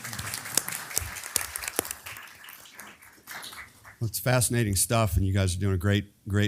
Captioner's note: applause